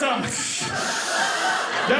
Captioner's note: audience laughing